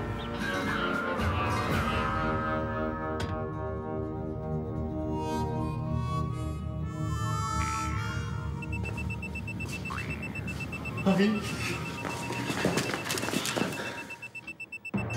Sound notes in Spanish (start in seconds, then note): 10.9 Pitido de alarma